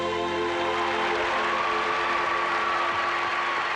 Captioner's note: crowd cheers